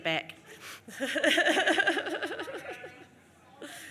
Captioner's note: laughs